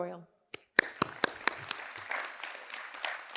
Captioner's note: applause